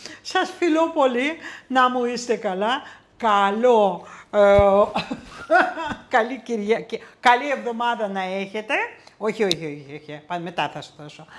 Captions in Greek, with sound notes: Σας φιλώ πολύ! Να μου είστε καλά! Καλό... (γέλια) Καλή Κυριακή! Καλή εβδομάδα να έχετε! Όχι, όχι, όχι, όχι! Πάνε μετά θα σου δώσω!